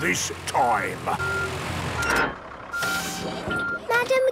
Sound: beeping, hydraulic noises

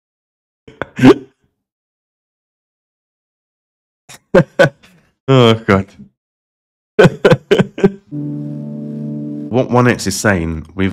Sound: laughing

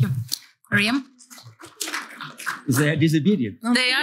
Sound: applause

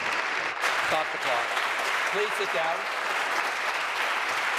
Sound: applause

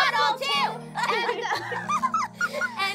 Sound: laughing

